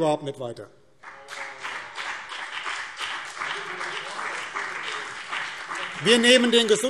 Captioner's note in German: Beifall BÜNDNIS 90/DIE GRÜNEN und CDU